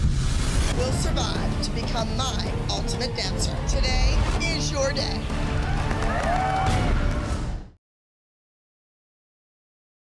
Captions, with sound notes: will survive to become my Ultimate Dancer. Today is your day. [cheering]